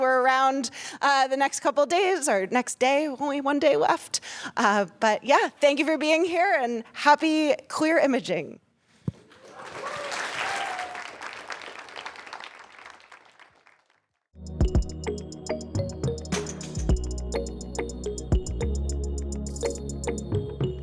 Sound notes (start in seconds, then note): 9.3 applause